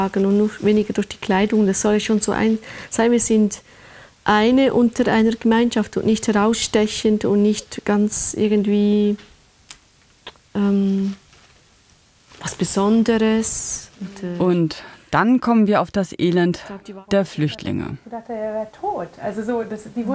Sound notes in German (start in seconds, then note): 18.1 Gespräch im Hintergrund